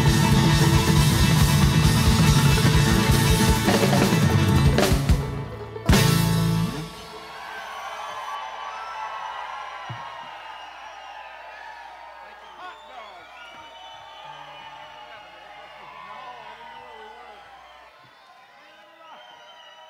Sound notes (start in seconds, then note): 7.7 audience applauds; 7.7 audience cheers